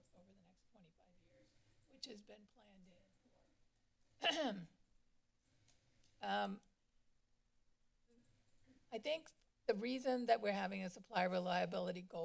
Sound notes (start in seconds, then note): 4.2 clears throat